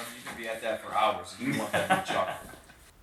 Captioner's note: Brandon laughing